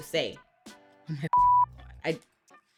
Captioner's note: beep